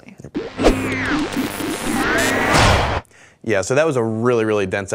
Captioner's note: electronic signals